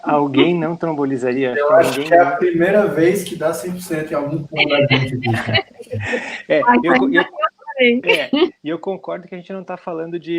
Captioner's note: multiple voices